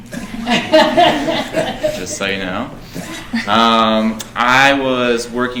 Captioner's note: laughing